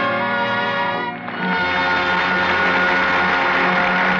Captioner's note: applause